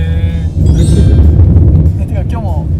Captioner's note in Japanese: 効果音 キラリン✨